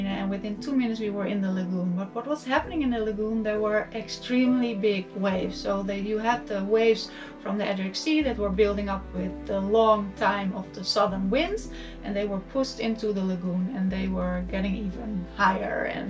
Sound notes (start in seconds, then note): none